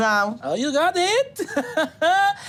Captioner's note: laughs